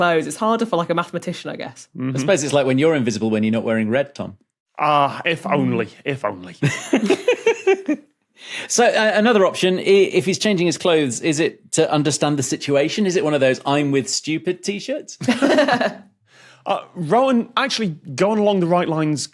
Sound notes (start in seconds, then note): 6.7 giggles; 15.2 others laughing